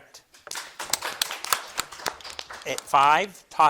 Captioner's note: crowd claps